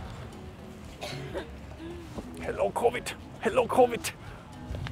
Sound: someone is coughing

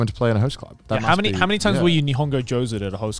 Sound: speaking foreign language

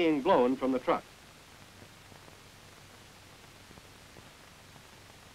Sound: silence

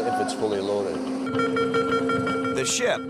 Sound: machine beeping

